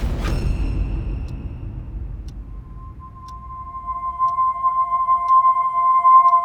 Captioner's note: clock ticking